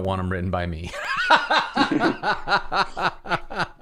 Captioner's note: laughter